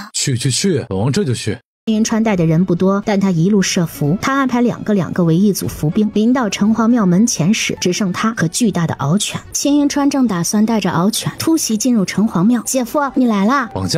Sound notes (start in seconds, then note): none